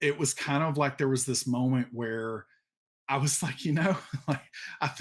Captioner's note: laughs